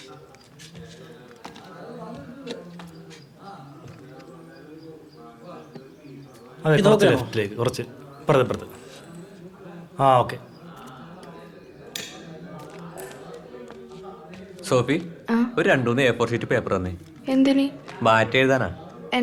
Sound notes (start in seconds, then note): 1.5 indistinct chatter; 12.0 indistinct chatter